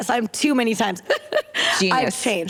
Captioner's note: laughter